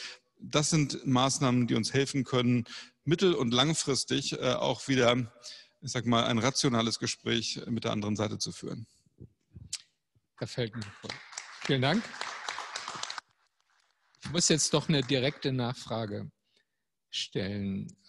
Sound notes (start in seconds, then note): 10.7 applause